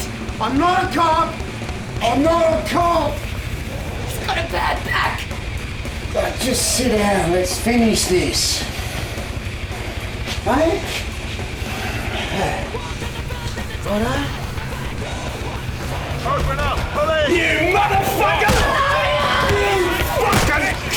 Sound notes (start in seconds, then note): 15.0 banging on door offscreen